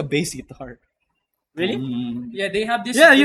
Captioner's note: imitates sound